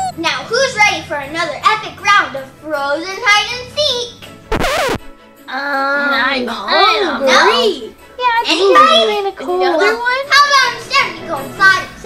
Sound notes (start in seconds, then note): 0.0 comical duck squeak; 4.5 record scratches; 4.6 chattering